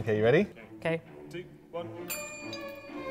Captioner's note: faint in background... two, one